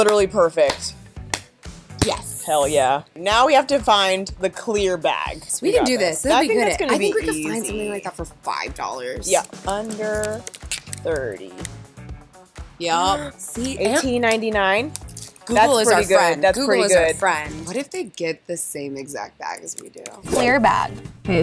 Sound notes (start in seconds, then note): 0.6 claps; 13.7 gasps; 20.3 air whooshing